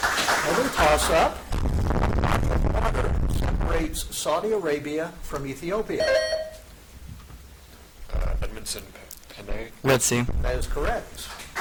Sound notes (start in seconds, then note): 0.0 audience claps; 6.0 buzzer dings